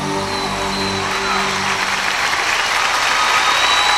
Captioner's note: applause and cheers